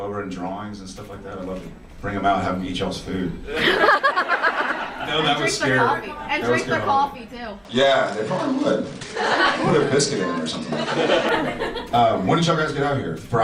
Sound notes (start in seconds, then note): 3.4 audience laughs